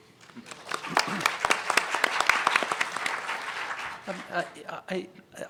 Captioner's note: applause